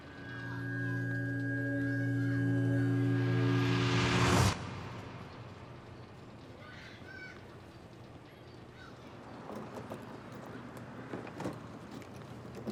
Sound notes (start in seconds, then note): 0.0 suspenseful music; 2.3 air whooshing; 6.5 children shouting; 10.7 lock clattering